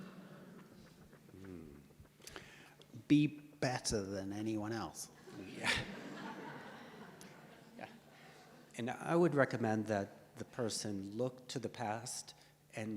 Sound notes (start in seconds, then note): 5.3 audience laughs